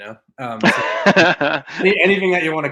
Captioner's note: laughs